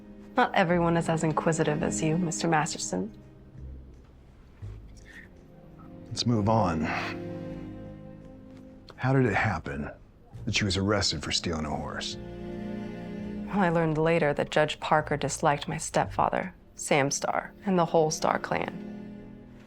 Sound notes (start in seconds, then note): none